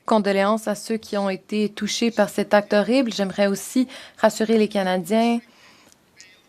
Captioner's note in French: voix de l'interprète